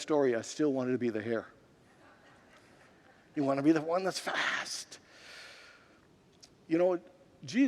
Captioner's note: congregants laugh